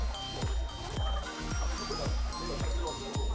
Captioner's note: laughter